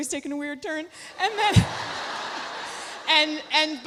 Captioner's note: audience laughs